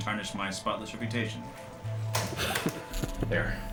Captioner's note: key slam; chuckling